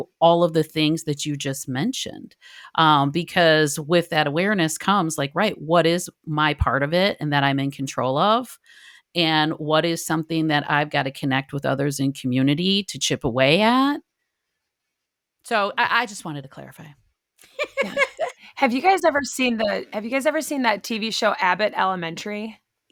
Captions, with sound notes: all of the things that you just mentioned. Because with that awareness comes like, right, what is my part of it? And that I'm in control of? And what is something that I've gotta connect with others in community to chip away at? So I just wanted to clarify. [laughing] - Have you guys ever seen that TV show Abbott Elementary ?